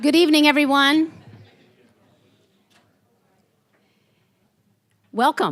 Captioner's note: general chatter quieting down